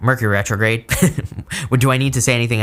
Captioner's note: chuckles